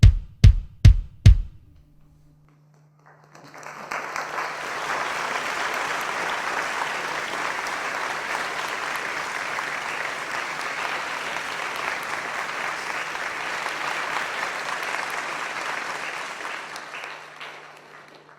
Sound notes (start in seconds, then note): 3.5 applause